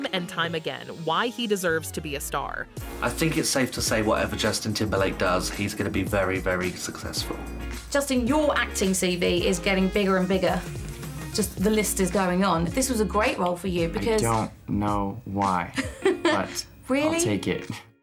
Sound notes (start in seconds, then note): 15.8 interviewer 1 chuckles